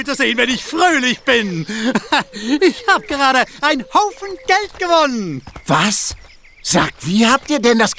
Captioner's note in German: gelächter